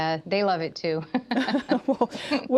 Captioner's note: laughs